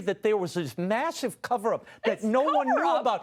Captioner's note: laughs